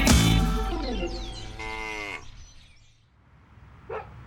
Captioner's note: cow moos